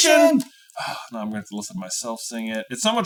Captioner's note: sighs